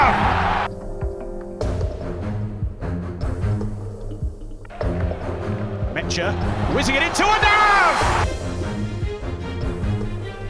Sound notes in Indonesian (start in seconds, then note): 7.8 berteriak